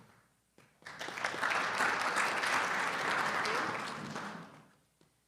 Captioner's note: audience applauding